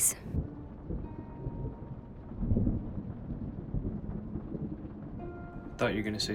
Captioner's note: melancholic music; thunder rumbling